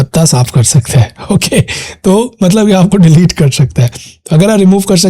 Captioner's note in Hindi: हंसी